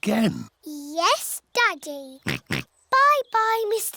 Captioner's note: oinks